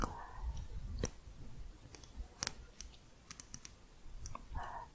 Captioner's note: light tapping